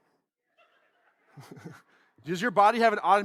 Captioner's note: audience laughs